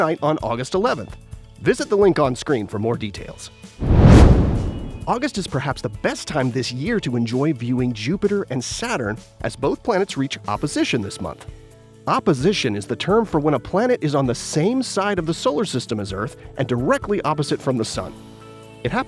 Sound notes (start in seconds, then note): 3.8 whoosh